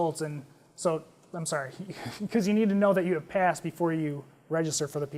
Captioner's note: laugh